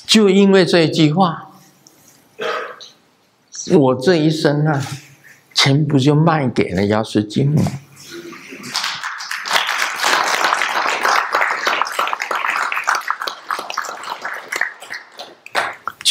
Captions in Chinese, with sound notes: 就因為這一句話， 我這一生啊全部就賣給了瑤池金母。（眾鼓掌）